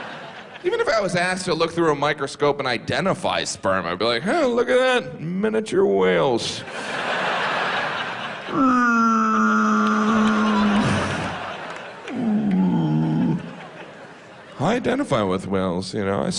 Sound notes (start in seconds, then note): 8.6 whale sounds